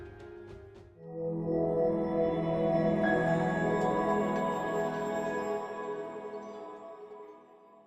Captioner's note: swelling tone, high pitch bell